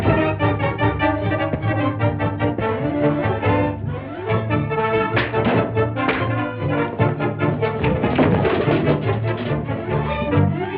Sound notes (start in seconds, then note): 0.1 fast-paced music; 5.0 punching; 7.4 items falling over